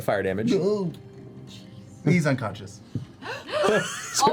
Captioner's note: groans